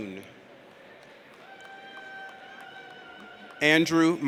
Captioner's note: audience cheers